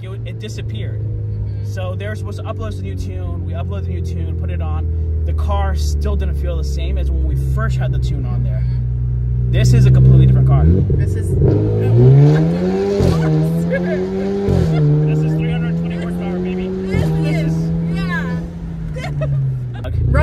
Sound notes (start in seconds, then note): 0.0 engine revving; 11.0 engine revving; 14.6 laughs